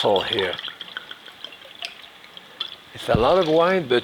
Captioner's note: wine pouring